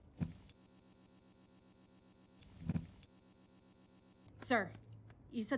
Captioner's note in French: Long silence